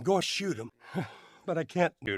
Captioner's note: heavily Sighs